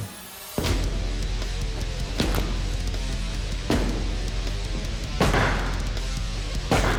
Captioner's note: blade impact sounds